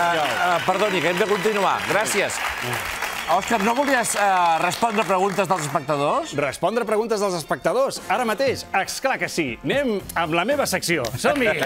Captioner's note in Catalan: aplaudiments